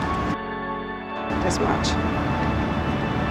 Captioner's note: voiceover